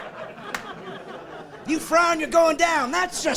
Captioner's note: laughing